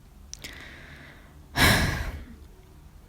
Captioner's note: sighs